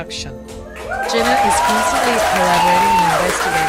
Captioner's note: applause